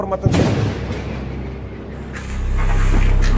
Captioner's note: thunder